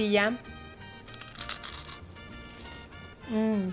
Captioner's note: Crunch